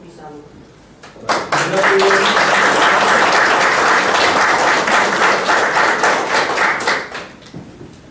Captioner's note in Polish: oklaski